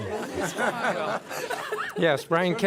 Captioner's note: laughter